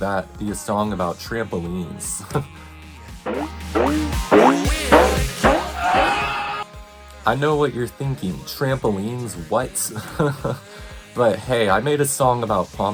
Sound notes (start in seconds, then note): 3.2 audible trampoline noises; 5.7 audible man on trampoline screaming for life